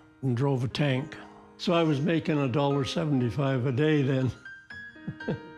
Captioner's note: laughs